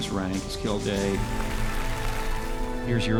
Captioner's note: applause